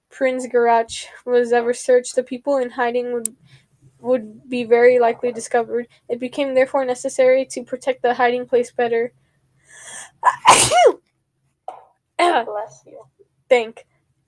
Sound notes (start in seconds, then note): 10.2 sneeze